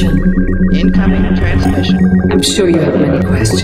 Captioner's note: voiceover